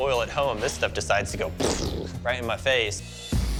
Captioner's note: mimics explosion